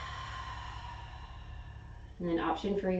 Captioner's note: exhaling